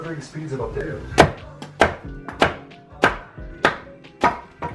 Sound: banging

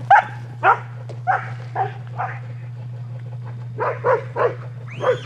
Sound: dogs barking

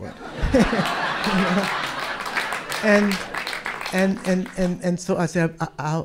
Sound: audience clap and cheer

